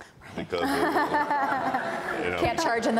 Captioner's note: panel and audience laughs